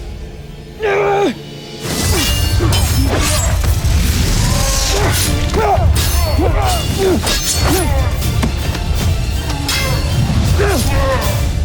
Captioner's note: growling, grunting, groaning; swishing, clanging, thudding